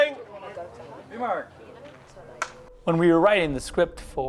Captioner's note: clapperboard snaps